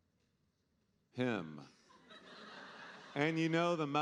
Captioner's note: audience laughing